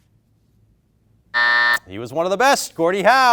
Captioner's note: beep